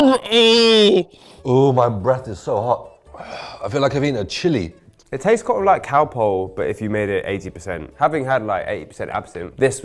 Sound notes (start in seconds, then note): 3.2 exhales deeply